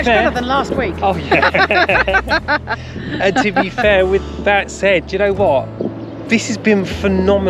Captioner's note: laughter